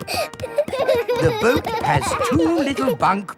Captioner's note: snorting; kids giggling